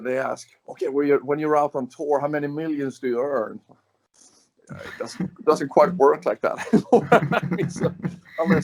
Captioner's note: laughs